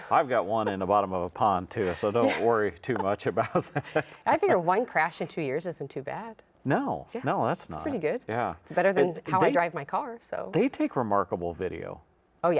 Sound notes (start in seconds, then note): 1.8 laughs